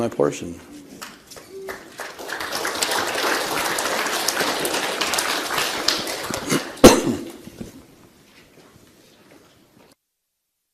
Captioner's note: applause